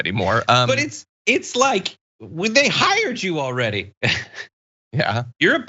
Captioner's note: laugh